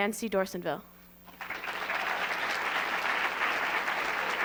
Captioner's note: applause